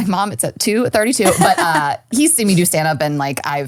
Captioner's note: laughing